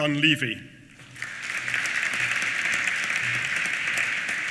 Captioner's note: applause